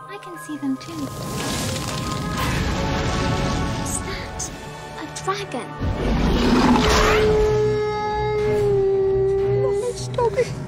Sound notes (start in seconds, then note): 6.6 howling